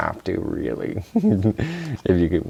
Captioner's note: giggle